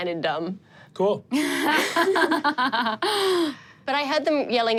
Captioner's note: laughs